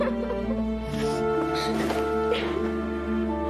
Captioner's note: sobbing